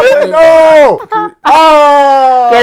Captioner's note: laughing